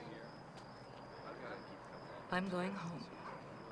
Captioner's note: group chattering